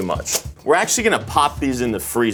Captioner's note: parchment slaps